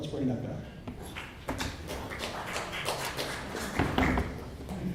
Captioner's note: clapping